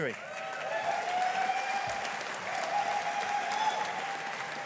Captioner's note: audience applauding